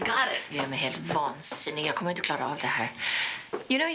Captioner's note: Inger speaking Swedish